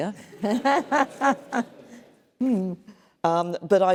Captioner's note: laughter